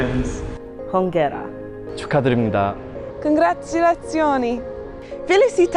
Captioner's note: speaking foreign language